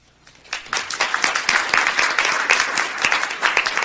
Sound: applauding

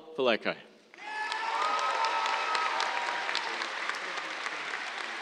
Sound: cheers, applause

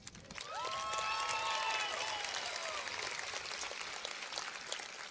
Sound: cheers and applause

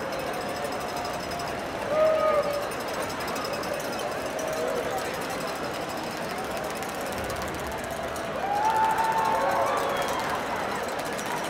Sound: cheering

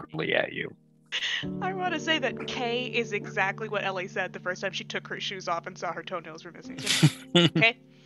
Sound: laughs

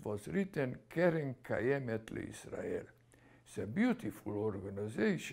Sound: speaking hebrew

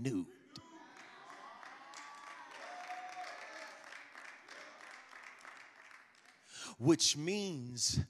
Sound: congregation applauds

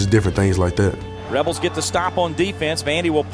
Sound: voiceover

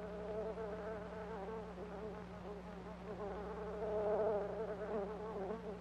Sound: fly buzzing intensifying

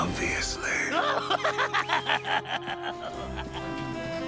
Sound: fizz laughs

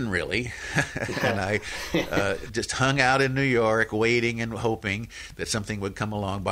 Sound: laughs

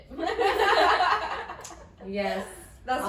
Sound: women laugh

